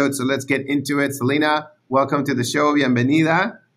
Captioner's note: speaks Spanish